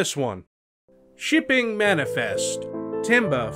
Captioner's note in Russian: говорит с карикатурным британским акцентом